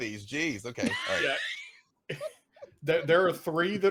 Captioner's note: laughing